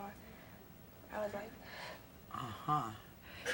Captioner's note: sigh